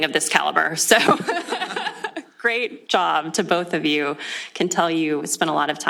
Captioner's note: laughs